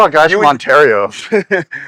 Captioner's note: laughing